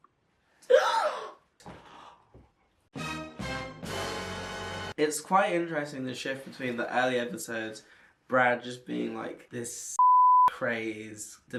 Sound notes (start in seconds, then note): 0.7 exclaims loudly; 10.0 beep